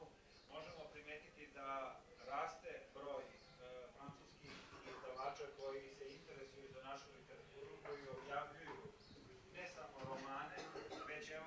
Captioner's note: TV in the background